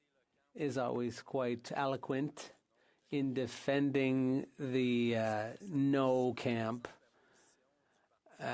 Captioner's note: speaking French